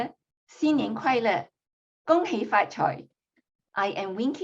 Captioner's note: speaking chinese